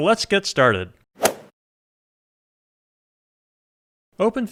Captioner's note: golf swing sound effect